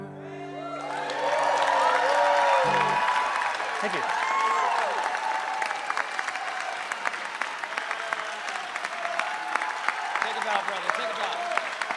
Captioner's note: cheering